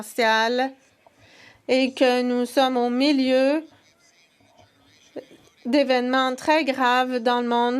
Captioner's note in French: voix de l'interprète